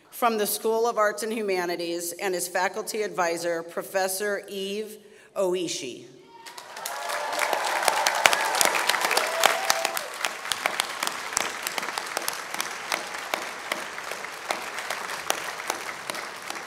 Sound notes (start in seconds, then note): 6.4 applause